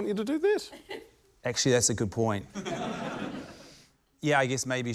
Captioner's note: laughter